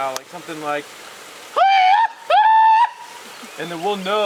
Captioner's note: tribal yelps